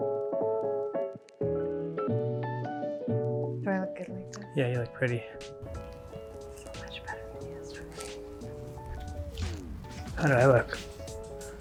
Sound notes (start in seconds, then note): 5.6 whispering